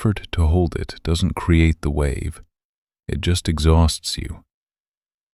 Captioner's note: low voice